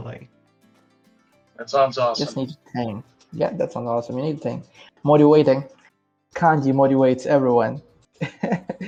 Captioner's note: laugh